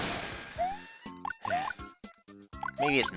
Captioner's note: sigh